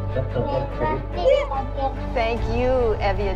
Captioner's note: speaks in foreign language